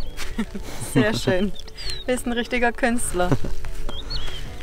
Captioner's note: laughing